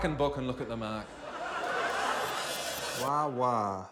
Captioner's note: laughter